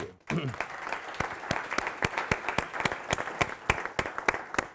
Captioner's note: audience applauding